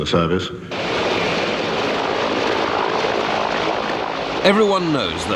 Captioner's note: helicopter engine roars